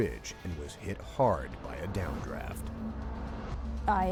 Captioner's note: voiceover